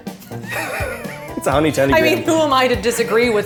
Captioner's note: both laughing